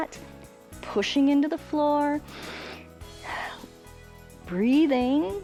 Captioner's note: inhales and exhales